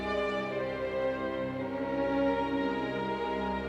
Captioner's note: none